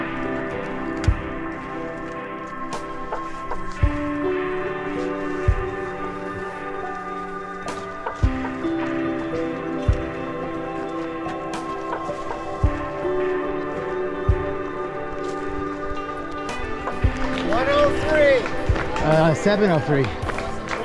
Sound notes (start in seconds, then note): 0.7 leaves rustling